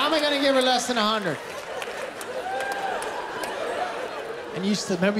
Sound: laughter, applause

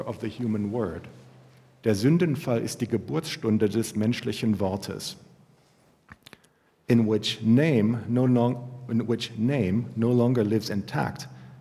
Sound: german

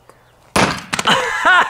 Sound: sledgehammer hits

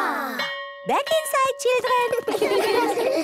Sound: school bell

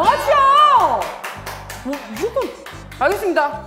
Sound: heh heh

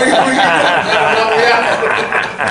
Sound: group laughter

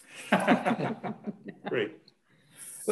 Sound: laughing

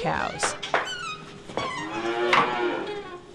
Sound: mooing

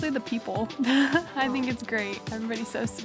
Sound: chuckling

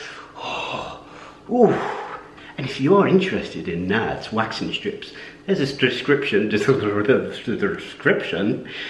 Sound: stammering

